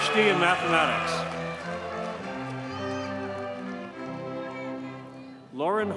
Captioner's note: audience cheers and applauds